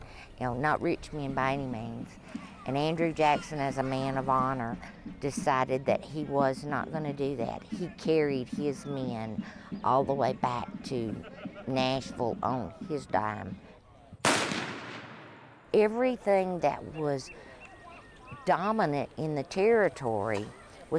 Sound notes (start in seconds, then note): 14.2 gunshot